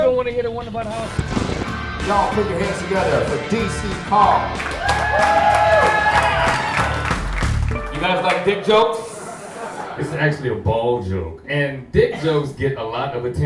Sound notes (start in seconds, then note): 4.0 audience applauds